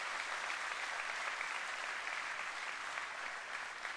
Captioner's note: applause